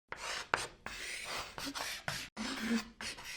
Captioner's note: chalk scratching